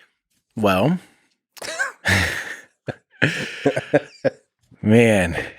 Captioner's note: Lex laughs; Tim laughs